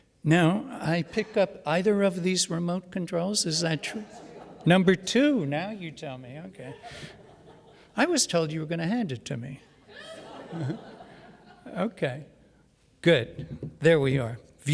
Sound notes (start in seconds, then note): 9.8 audience laughs